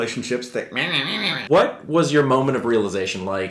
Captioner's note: mocking noise